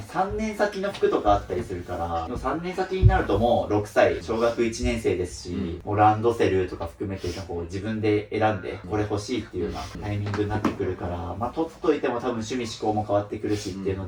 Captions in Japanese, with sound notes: 3年先の服とかあったりするから、も 3年先になるともう6歳小学1 年生ですし、もうランドセルとか含めてこう自分で選んでこれ欲しいっていうようなタイミングになってくるから、ま、取っといても多分趣味思考も変わってくるしっていうので、もう大丈夫ですね。 [咳払い] [鼻息]